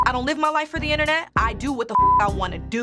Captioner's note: beep; beep